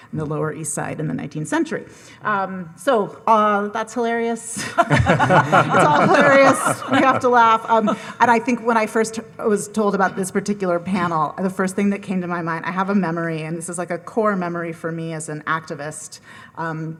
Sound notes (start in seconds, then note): 4.6 all laughing